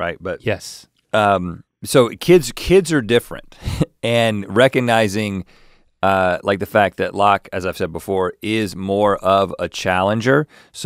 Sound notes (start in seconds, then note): 3.6 chuckles